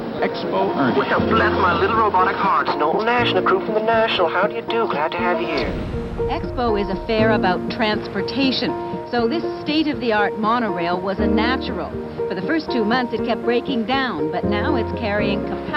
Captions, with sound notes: Expo Ernie. [robotic voice] Bless my little robotic heart! It's Knowlton Nash and the crew fromThe National, how do you do? Glad to have you here. Reporter:Expo is a fair about transportation, so this state-of-the-art monorail was a natural. For the first two months, it kept breaking down,